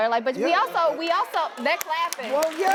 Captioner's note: audience claps